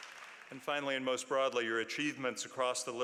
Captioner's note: applause